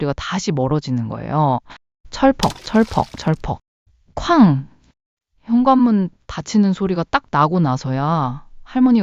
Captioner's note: splat, splat, splat